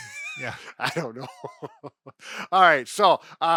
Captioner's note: chuckles